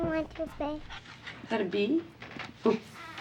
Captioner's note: mutters